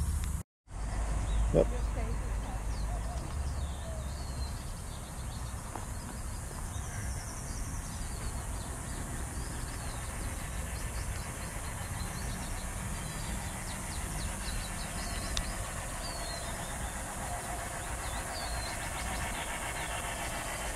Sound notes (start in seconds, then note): 0.1 birds chirping; 0.1 cicadas buzzing; 6.7 birds chirping; 6.7 cicadas buzzing; 9.5 birds chirping